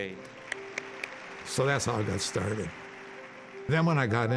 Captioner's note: applause